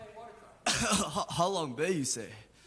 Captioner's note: cough